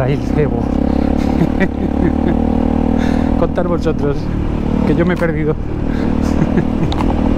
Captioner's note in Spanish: risas